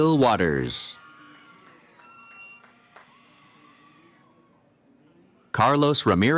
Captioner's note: cheering